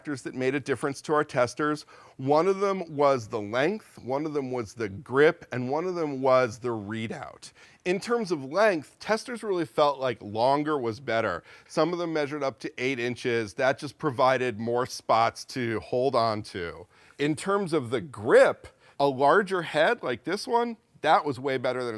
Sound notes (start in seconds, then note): none